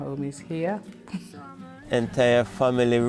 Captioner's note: chuckles